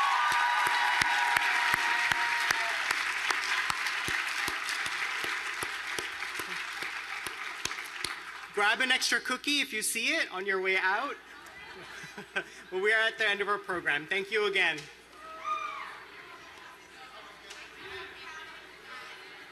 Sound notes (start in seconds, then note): 4.3 applause